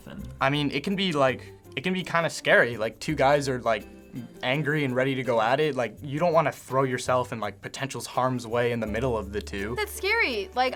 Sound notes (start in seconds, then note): none